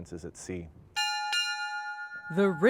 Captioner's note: bell rings